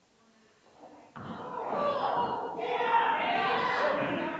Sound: people chattering

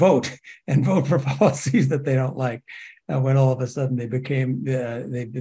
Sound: laugh

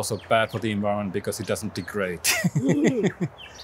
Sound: laughs

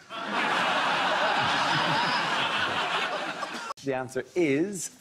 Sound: audience laughs

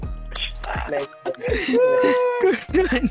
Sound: chuckles

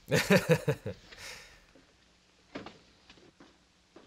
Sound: laughing

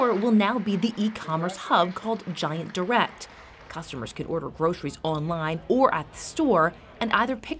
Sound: applause

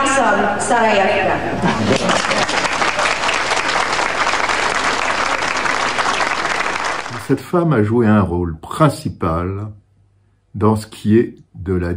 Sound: applause

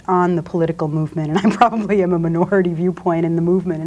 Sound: laughs

